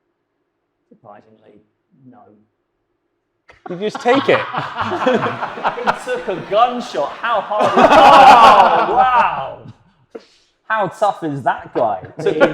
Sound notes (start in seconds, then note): 3.6 all laughing; 5.8 audience and panel laughs; 8.4 panel laughs